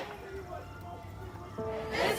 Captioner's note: ghostly Voice